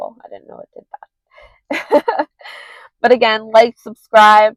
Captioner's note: laughs